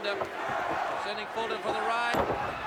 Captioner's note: crowd cheering